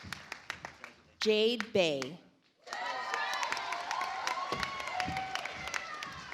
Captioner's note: audience applauds